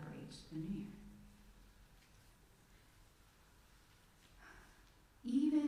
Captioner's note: silence